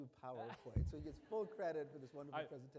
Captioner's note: laughing